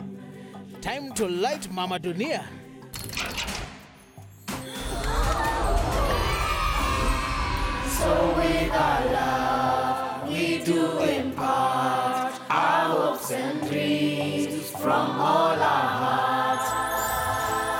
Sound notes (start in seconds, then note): 4.0 all gasping; 4.8 cheering